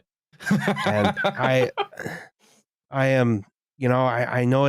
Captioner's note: laughs